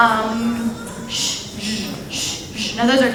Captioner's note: imitating sounds